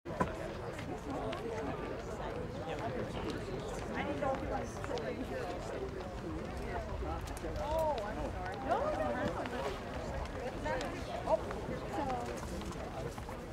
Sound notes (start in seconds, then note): 0.8 multiple quiet conversations